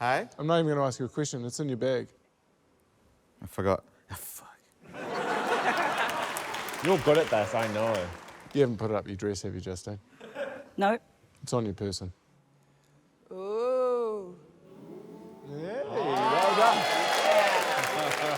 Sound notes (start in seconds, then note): 4.2 whispers; 4.9 laughter, applause; 15.9 audience exclaims, applauds; 18.2 laughs